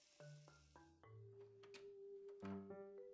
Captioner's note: turning off sink